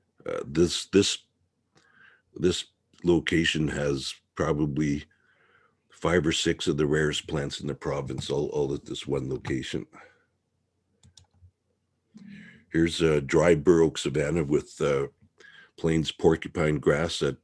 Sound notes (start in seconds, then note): 11.0 mouse clicking